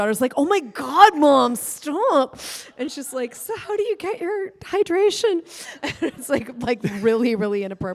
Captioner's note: laughter